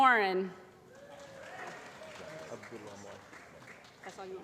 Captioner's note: applause